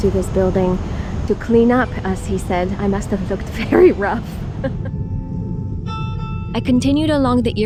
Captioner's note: laughing